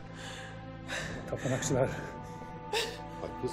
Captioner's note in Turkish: Ağlama sesi